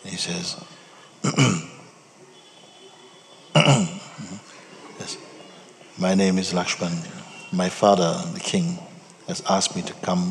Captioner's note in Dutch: schraapt zijn keel